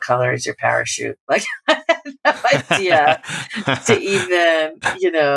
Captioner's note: laughter